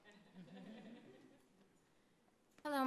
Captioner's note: laughter